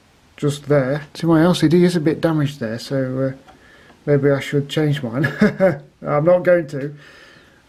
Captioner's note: laughs